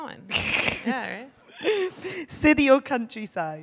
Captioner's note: chuckles